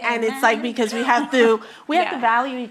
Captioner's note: chuckles